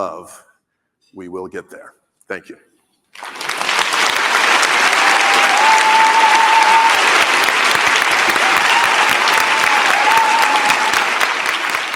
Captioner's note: applause